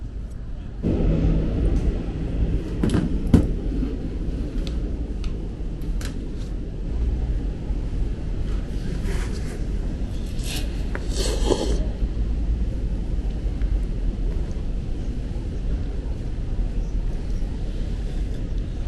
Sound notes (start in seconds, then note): 10.9 sorry for the slurping